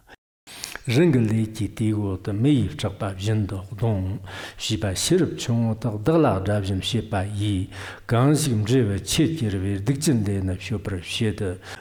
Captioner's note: giving oral transmission in Tibetan